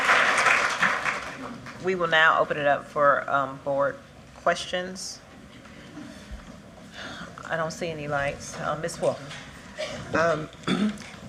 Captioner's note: applause